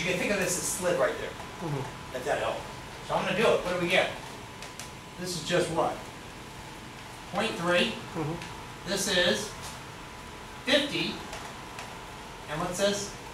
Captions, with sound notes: Cool, because you can think of this as slid right there, if that helps. (speaks softly) This is just what? .3, this is, 50, and what's this?